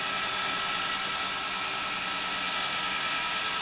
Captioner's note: saw whirring